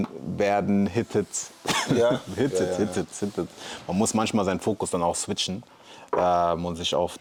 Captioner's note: gelächter